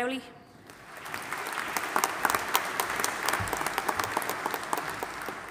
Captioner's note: audience applauding